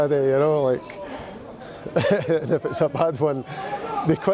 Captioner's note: chuckles